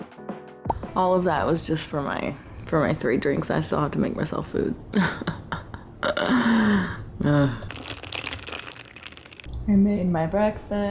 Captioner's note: laughter; dramatic sigh